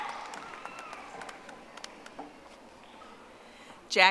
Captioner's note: audience applauding